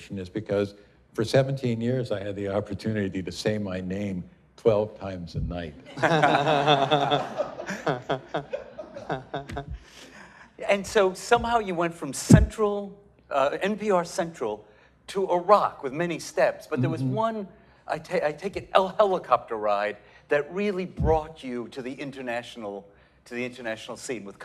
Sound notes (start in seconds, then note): 5.8 laughter